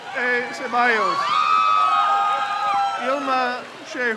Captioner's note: crowd cheers